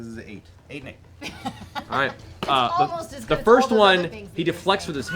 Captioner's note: laughs